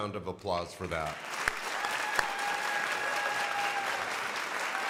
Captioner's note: crowd applauding